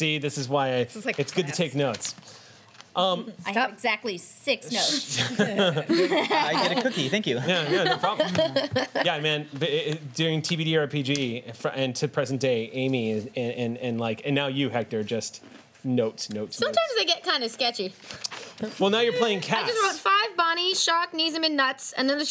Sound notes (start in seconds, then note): 5.0 laughing